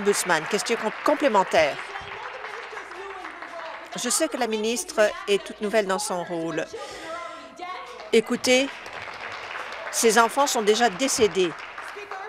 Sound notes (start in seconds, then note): 0.0 applause